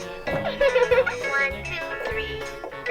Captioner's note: laughs